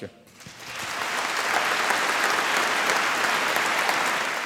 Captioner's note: applause